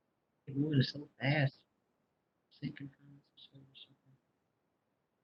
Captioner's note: speaking faintly